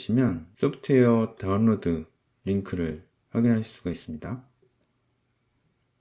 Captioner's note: click